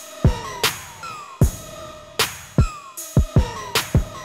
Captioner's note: voiceover